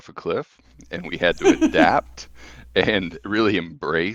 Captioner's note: laughing